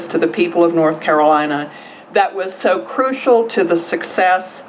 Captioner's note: none